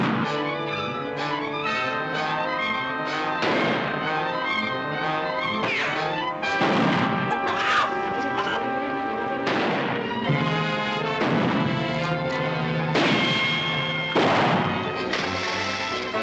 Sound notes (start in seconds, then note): 7.1 chickens clucking